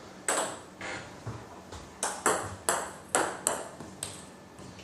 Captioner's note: balls ping pong hitting continues